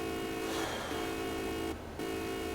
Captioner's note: beeping; breaths; beeping